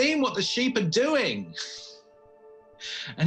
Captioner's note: laughing